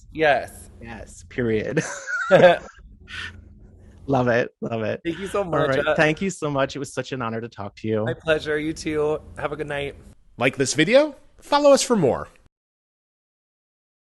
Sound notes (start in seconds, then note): 1.7 both laughing